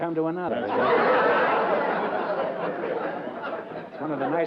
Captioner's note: laughter